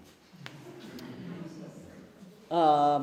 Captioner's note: laughter